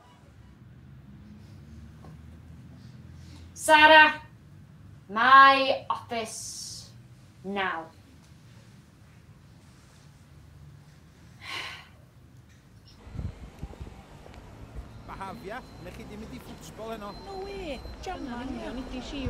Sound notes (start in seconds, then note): 12.9 voices from the street